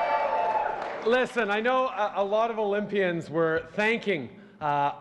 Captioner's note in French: Acclamations